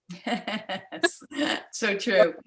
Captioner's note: chuckles